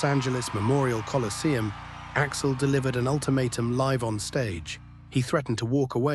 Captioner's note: SFX: crowd cheering fading into tension